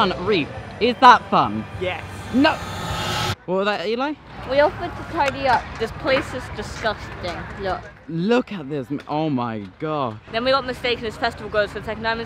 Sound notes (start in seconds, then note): 0.9 dramatic sound intensifies